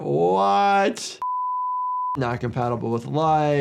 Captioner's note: screen beeps